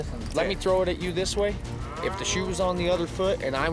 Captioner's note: cows mooing